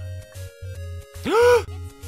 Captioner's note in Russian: задыхается